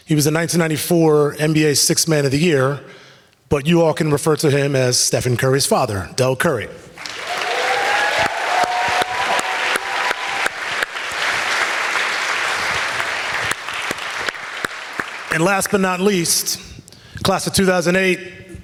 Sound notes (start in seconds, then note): 7.3 audience applauds